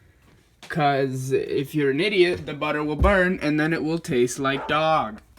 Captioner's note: dog sound